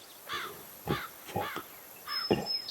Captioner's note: bird caws